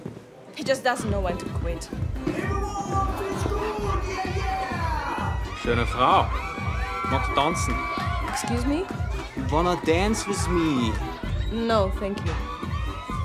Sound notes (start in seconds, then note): 1.8 deejay shouting; 5.4 speaking German